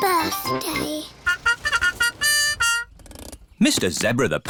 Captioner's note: horn tooting